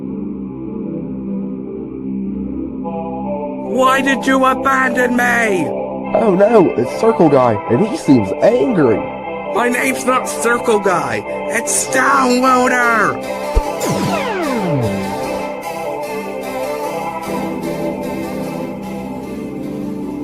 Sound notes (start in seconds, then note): 13.5 teleportation sound; 13.5 swoosh